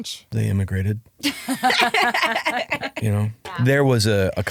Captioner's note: laughing